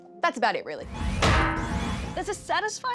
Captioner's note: frying pan clangs